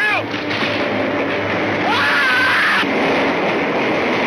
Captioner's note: Grub screams